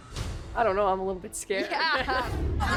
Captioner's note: all laugh